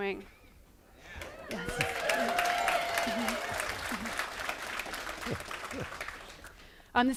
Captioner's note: applause